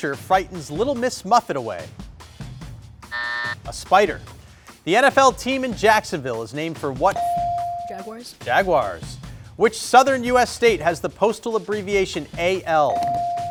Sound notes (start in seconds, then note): 3.1 buzzer blares; 7.2 buzzer chimes; 12.9 buzzer chimes